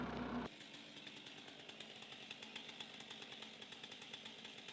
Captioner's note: chainsaw rumbling